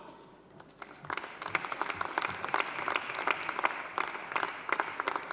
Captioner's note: audience applauding